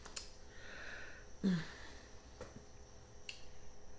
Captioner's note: sighs